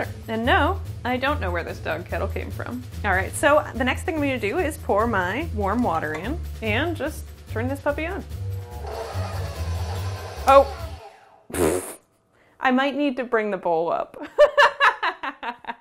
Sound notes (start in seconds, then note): 14.3 laughs